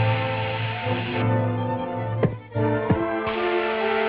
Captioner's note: muffled banging